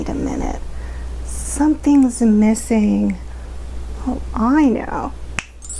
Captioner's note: snaps fingers; magical trill